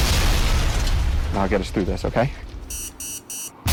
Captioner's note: bomb banging